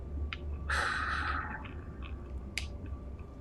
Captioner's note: sighs